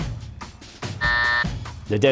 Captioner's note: buzzer